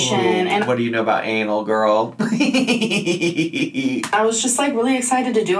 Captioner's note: laughs